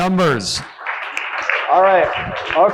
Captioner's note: audience applauding